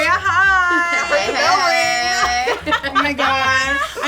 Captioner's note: all laughing